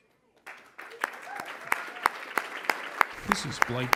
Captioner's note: applause